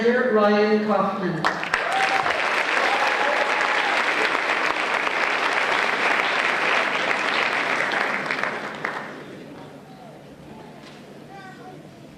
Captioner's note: applause